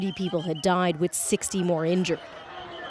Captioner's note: sound of siren